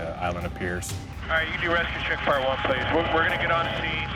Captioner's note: man On Radio